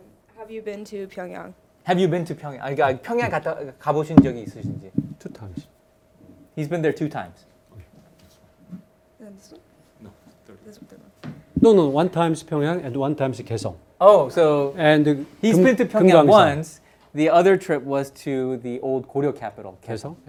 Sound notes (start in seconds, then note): 2.9 speaking in Korean